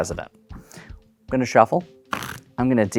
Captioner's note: new song begins; cards riffling